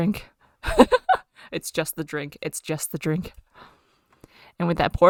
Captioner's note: laughs